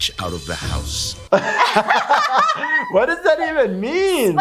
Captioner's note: both laugh